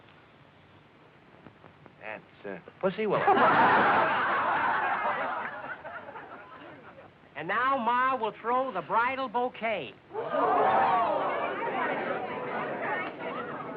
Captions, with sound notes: -That's, uh, pussy willow. [laughter] -And now Ma will throw the bridal bouquet. [chatter]